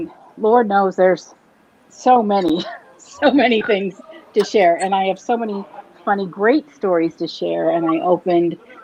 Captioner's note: laughs